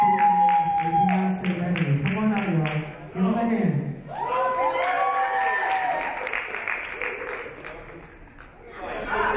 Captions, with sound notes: (audience cheers) Come on out y'all. Give them a hand. (audience applaud)